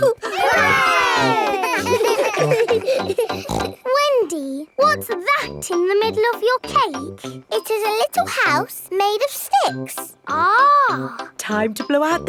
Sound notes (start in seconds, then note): 0.0 chuckles; 0.0 laughing; 1.8 snorts